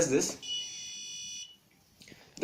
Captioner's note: buzzer sound